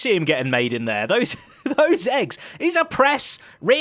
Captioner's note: laughs